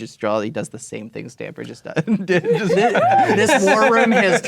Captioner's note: laughing